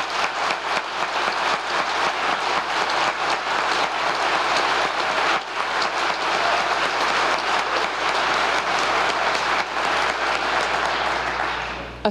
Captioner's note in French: applause